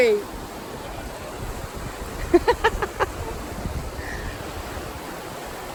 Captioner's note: laughing